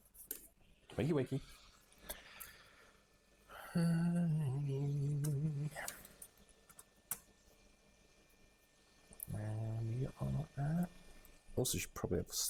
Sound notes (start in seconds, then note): 6.0 humming